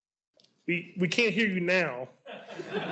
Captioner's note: laughs